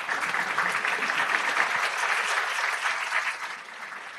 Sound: audience clapping

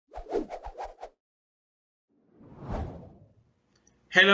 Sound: air whooshing

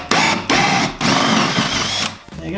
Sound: drilling

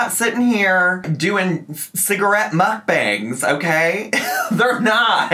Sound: laughs

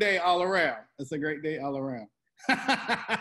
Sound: laughs

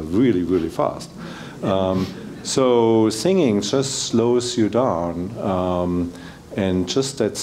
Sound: laugh

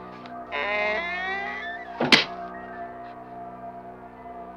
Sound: hatch creaking

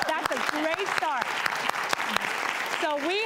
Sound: applause

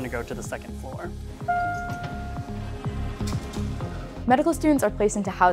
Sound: elevator dinging

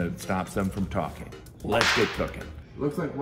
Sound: whip cracking

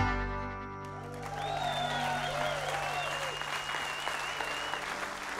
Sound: audience cheers

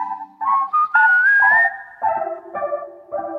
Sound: whistles

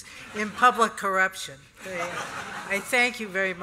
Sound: laughter

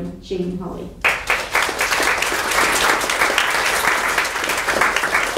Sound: audience applauding

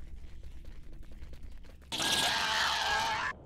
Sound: screaming

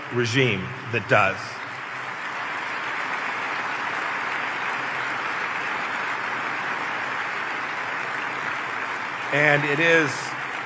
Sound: applause

